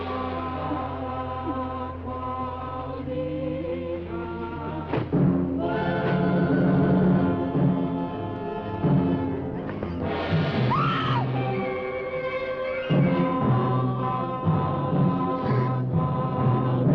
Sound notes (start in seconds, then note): 0.0 singers vocalizing; 10.6 Pat screaming; 13.8 singers vocalizing